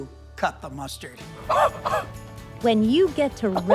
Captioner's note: gasping